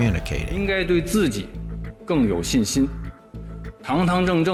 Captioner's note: speaking Mandarin